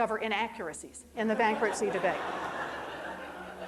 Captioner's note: crowd laughing